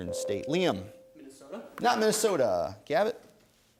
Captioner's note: ding